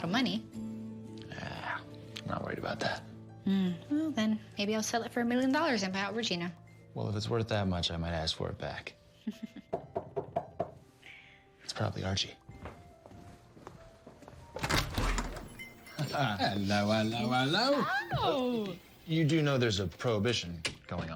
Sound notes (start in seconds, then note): 9.2 chuckles